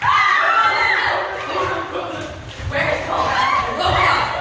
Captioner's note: actors screaming